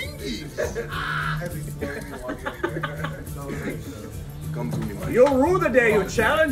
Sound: laugh

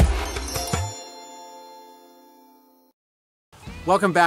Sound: bells chiming

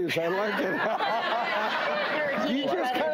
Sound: laughs

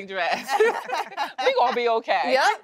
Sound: laughter

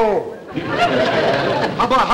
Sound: audience chuckling

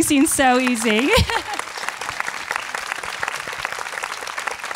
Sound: audience applauding

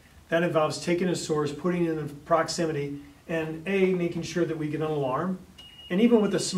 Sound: alarm beeps

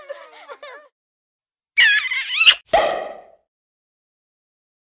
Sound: smooching, pop

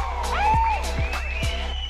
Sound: screams

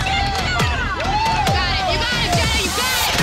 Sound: crowd cheers

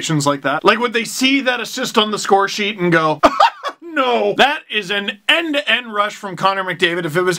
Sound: laugh

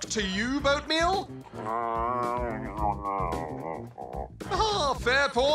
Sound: dog noises

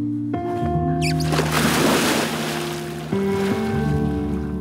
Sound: water splashing

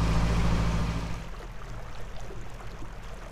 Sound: sounds of water

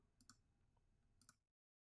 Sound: mouse clicking

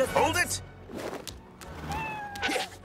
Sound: cat meows

